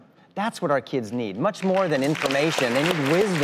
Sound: audience applauds

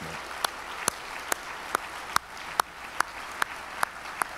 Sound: audience applauds

